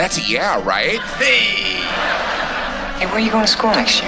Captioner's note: laughter